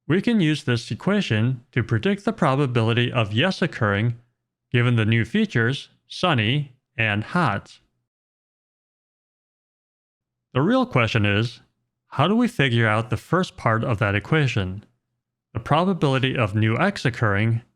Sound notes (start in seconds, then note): none